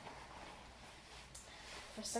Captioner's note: +mouth smack+